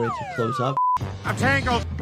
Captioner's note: graphic beeps